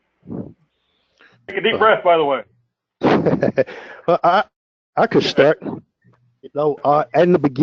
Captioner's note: laugh